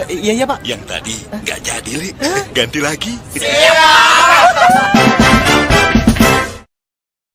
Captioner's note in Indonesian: berteriak